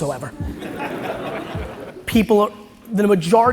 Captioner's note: audience laughs